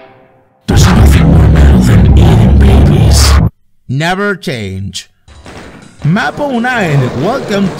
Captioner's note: in a baritone